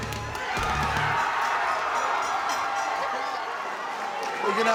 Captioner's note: applause